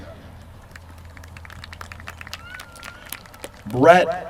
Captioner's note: applause